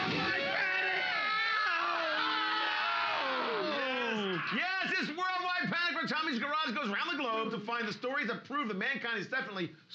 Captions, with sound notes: World Wide Panic! (screaming) Oh, no! Yes, it's World Wide Panic when Tommy's Garage goes around the globe to find the story that prove that mankind is definitely